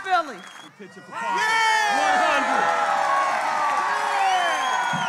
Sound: all cheering

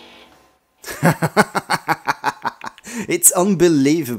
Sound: laughing out loud

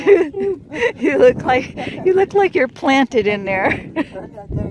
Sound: laughing

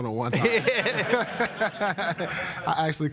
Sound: laughter

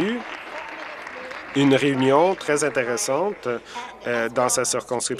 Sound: applause

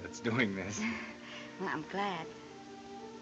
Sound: chuckles

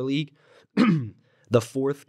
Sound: coughs

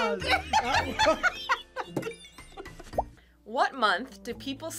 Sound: both laugh

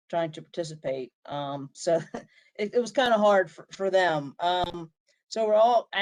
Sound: laughter

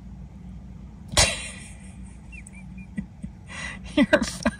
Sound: laughing

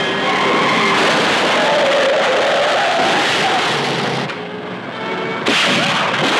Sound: tires screeching; car crashing; gunshots firing

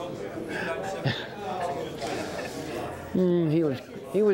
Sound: laughs

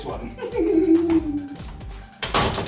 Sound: laughing

